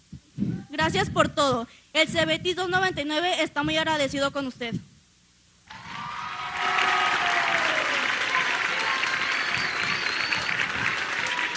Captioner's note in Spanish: aplausos